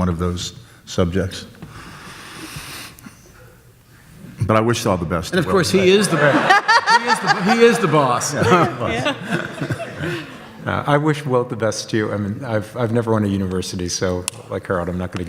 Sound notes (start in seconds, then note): 5.6 audience laughs